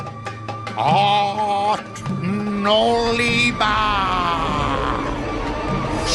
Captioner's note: chanting spell